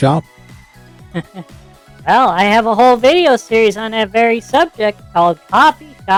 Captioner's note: laughs